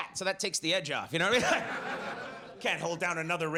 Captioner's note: audience laughs